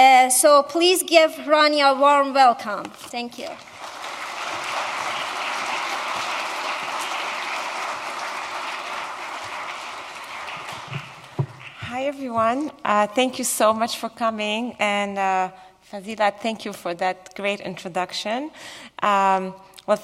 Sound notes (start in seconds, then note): 3.4 applause